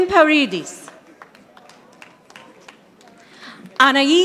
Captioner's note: audience applauding